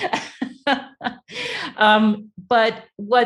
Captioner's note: laughs